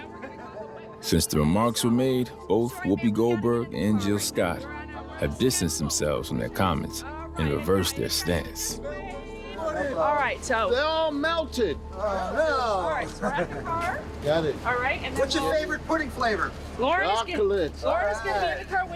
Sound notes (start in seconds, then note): 9.5 muffled chatter